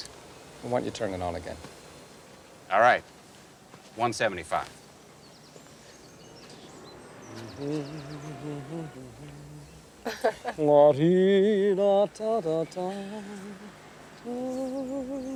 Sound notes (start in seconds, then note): 7.3 Arthur humming; 10.0 Bess laughing; 10.9 singing in foreign language